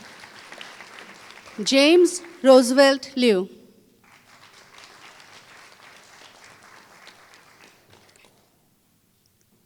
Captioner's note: applause